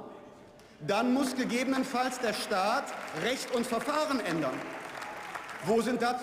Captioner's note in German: Unter Beifall